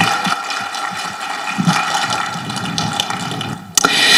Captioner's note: people applauding